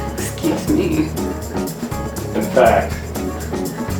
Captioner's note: mocking